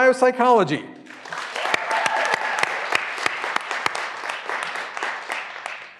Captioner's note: graduands cheering and applauding